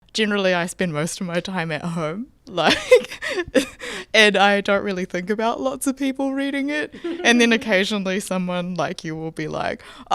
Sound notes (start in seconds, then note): 2.6 laughing